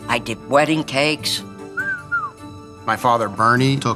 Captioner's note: whistles